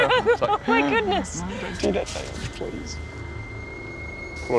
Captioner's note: laughs; gasps